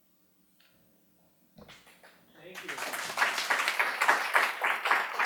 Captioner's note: audience applauds